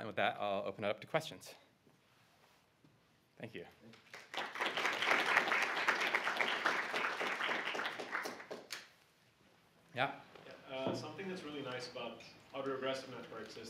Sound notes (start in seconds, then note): 3.9 applause